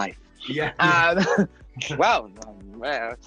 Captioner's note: both chuckling